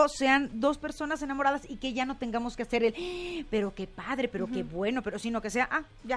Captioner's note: huge gasp